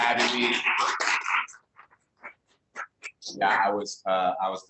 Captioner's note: applause